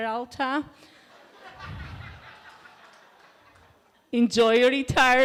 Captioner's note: laughter